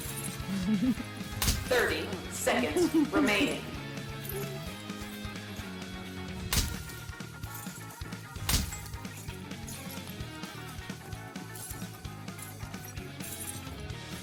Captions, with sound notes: (Computer over speak) 30 seconds remaining